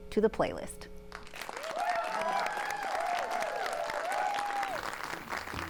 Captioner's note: applause